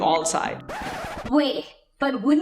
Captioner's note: record scratching